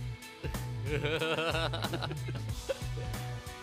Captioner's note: laughter